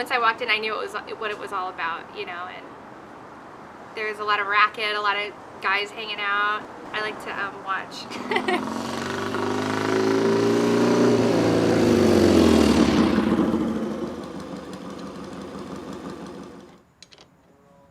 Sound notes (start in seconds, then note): 9.9 engine rumbling